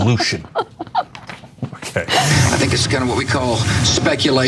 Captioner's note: laugh